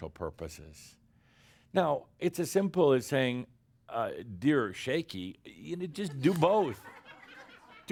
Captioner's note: laughter